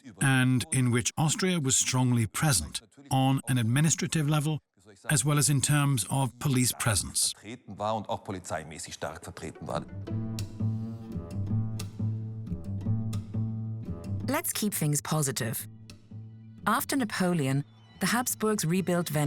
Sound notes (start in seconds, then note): 7.7 speaks in foreign language; 10.1 curious classical music